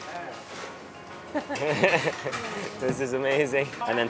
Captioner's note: laughing